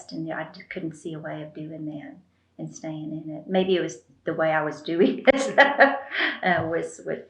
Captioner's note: laughs